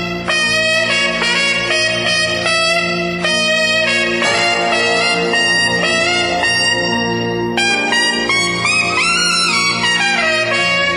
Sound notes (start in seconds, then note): none